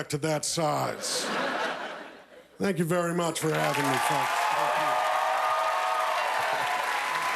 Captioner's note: cheers and applause